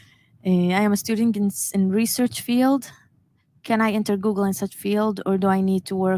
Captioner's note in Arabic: لغة أجنبية